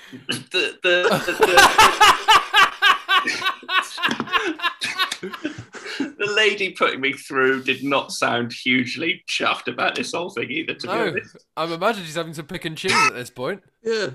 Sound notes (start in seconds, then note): 1.0 laughter; 2.9 extended laughter